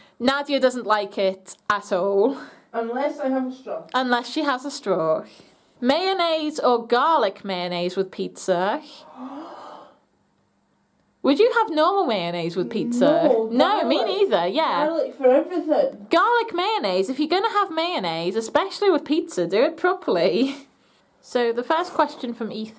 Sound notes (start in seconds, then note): 9.0 gasps